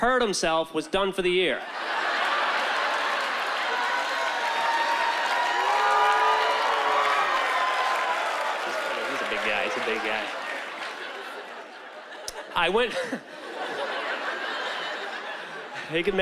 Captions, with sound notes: hurt himself, was done for the year. (laughter) (audience reacting) He's a big guy. He's a big guy. I went... (chuckles)